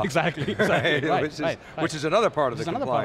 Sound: laughs

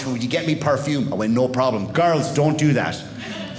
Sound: none

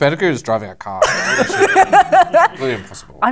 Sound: laughter

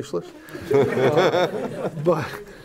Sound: laughter

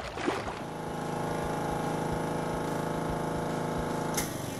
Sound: motor running

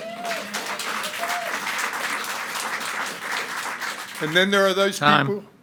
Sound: audience cheering and clapping

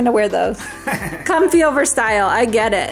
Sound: laughs

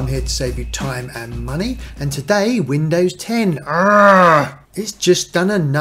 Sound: growl

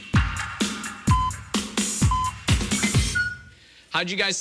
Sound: electronic beeping

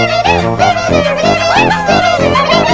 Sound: characters vocalizing

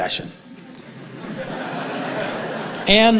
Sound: audience laughing

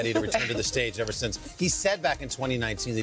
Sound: laughter

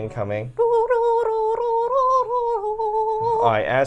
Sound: humming

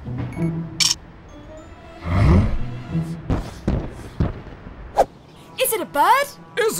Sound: photo noise

